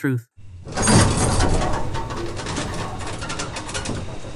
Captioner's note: A heavy metal door slides open